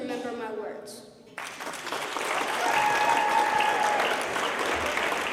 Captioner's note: applause